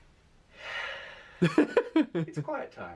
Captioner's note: sighs